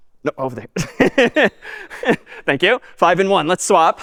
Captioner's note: می خندد